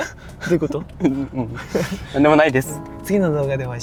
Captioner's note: laughs